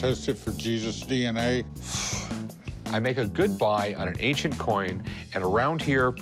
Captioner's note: exhales sharply